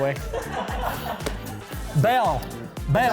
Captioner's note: offscreen laughter